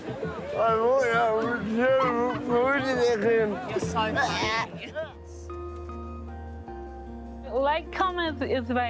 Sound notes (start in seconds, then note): 4.0 chuckles; 6.0 magical music